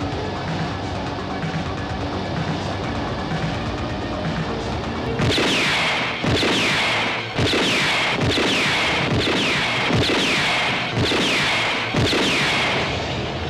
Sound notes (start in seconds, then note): 5.5 A lot of gunshots are heard